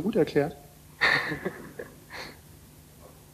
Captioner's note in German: lacht